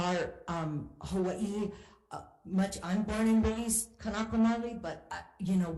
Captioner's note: speaking in Hawaiian